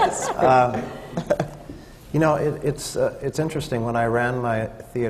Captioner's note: laughter